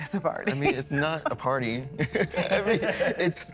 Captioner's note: laughs